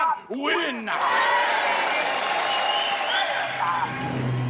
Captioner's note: cheers and applause